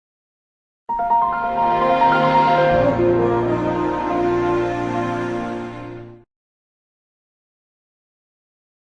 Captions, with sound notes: [WINDOWS ME STARTUP SOUND PLAYING] iNostalgia Repair Center Season 1, Made by iNostalgia Reviews. Enjoy! iNostalgia Repair Center Season 1, Made by iNostalgia Reviews. Enjoy!